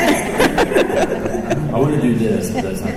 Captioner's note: chuckles